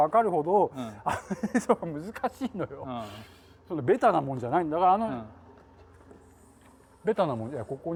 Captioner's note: laugh